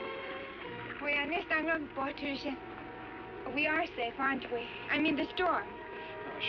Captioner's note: speaking swedish